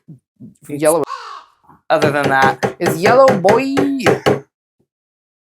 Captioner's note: caw